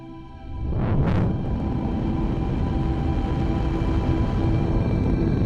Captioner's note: gentle music; spacecraft swooshes